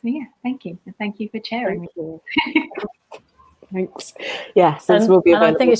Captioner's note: laughs